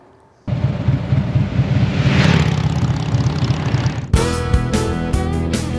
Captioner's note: motorcycle engine running; upbeat invigorating music